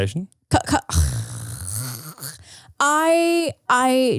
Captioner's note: gagging